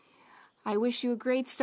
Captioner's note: speaking French